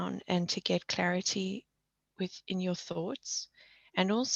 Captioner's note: none